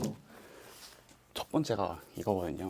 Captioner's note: rustling